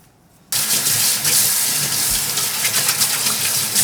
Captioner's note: water running